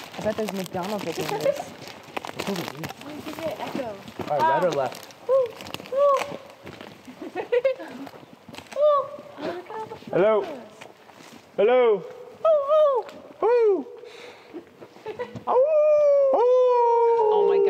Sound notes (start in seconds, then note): 1.6 laughing; 7.1 laughing; 7.2 chattering; 14.9 laughing; 15.6 imitating wolf howls